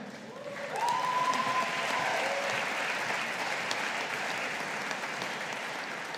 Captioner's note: audience applauding